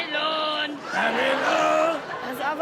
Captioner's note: audience laughs; mimics growl